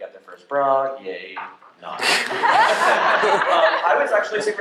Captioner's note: laughter